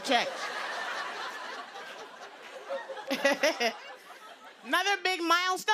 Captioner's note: laughter